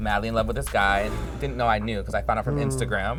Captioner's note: gasps